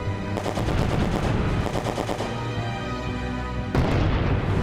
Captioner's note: bomb exploding; gunshots firing; bomb exploding